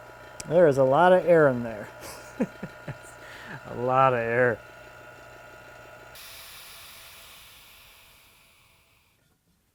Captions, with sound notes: There is a lot of air in there. (man laughs) A lot of air. (hisses)